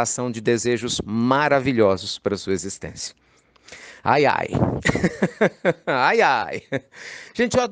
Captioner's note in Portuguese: Risos